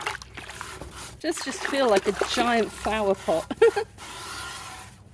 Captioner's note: laughing